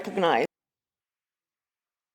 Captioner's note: applause